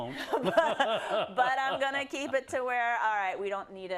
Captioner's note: laugh